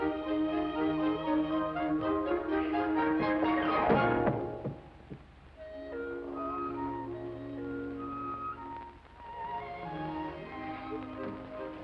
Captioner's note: window closes